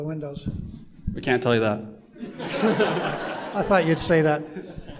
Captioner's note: laughter